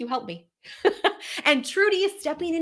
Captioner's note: laughs